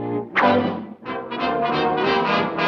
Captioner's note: Daffy whooshing